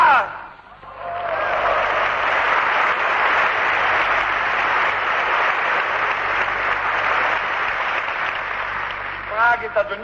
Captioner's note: applause